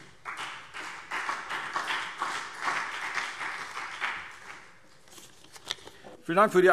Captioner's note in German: Beifall CDU und BÜNDNIS 90/DIE GRÜNEN